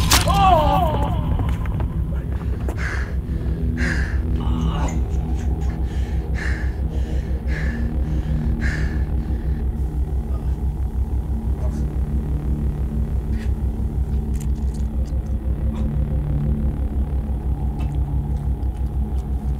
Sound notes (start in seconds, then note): 0.1 pained shout; 4.3 heavy panting